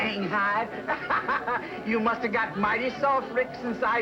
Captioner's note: laughs